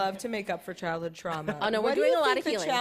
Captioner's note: chuckles